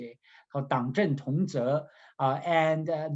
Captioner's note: speaking in Mandarin